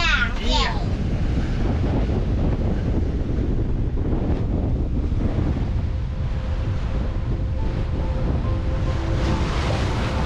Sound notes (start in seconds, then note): 3.3 wind blowing